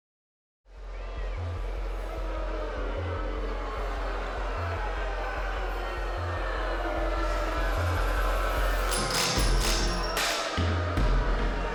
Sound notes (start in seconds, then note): 0.9 crowd jeering; 8.7 upbeat music